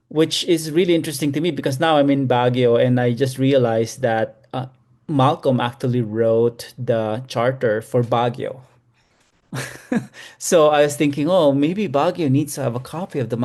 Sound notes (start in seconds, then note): 9.6 laughs